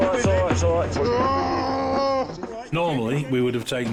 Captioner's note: casualty groans